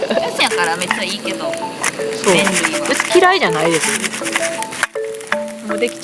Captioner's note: laughs